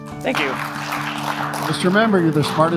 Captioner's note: applause